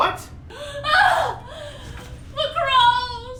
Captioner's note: Wilhelmina yells